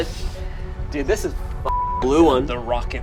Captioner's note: beep